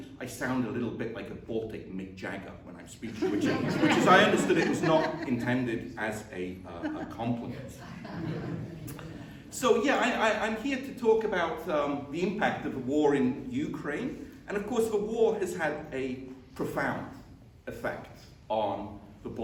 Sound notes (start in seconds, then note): 6.6 laughter